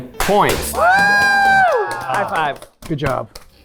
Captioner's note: everyone cheering